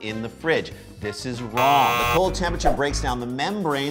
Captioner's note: buzzer